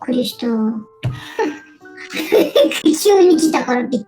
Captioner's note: laugh